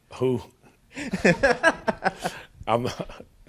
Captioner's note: laughing